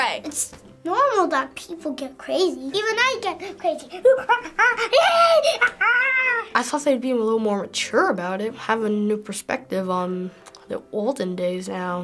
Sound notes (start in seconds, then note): 4.0 chattering like a monkey